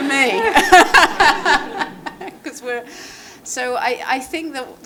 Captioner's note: laughing